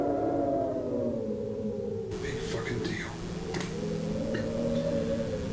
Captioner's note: chokes